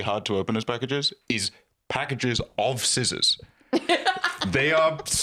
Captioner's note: laughs